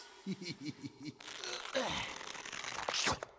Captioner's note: groans